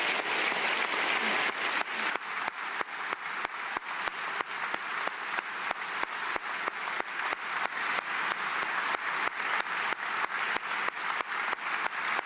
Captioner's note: applause